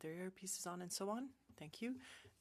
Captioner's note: speaking French